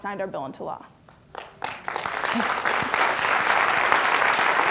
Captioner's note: applause